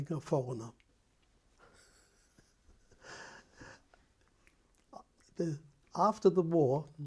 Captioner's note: laughs